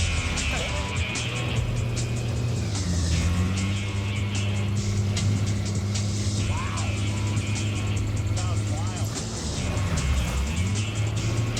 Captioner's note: laughs; engine humming